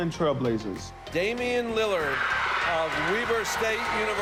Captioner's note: crowd cheering